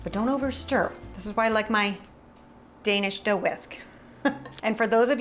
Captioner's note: chuckles